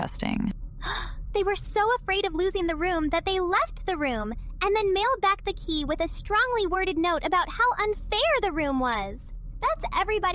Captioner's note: gasp